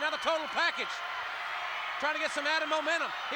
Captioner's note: applause